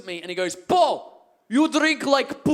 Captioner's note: Russian accent